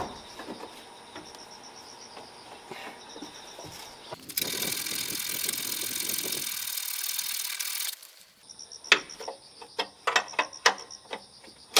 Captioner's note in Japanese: 作業音